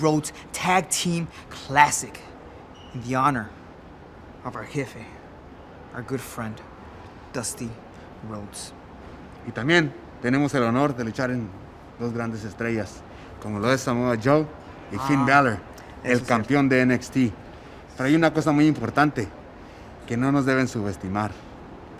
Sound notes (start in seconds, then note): 9.6 speaking spanish